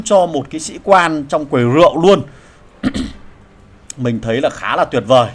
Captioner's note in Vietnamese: hắng giọng